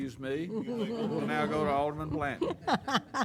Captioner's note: laughs